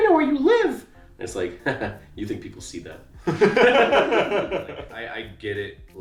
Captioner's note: laughs